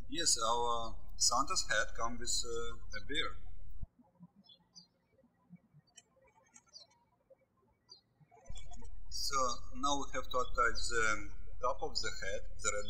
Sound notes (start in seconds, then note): 4.1 birds chirping